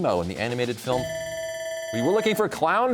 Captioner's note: bell ringing